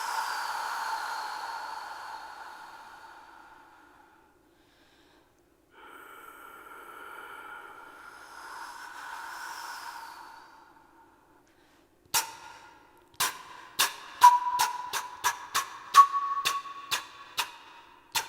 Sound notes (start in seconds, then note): 0.1 blowing air; 9.7 blowing air; 13.7 spitting sound into flute